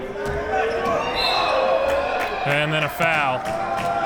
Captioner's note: whistle blows